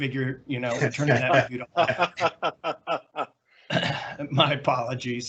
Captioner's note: laughing